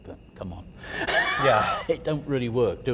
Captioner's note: guy laughs